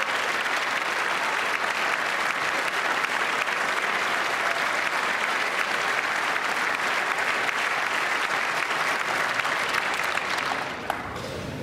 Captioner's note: applause